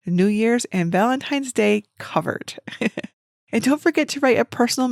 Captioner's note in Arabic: يضحك